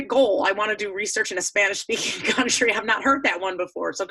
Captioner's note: chuckling